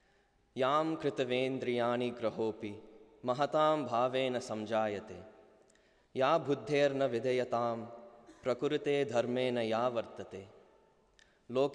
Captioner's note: non-english speech